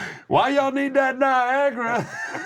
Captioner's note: laugh